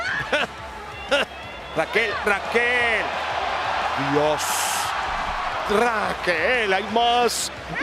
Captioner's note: laugh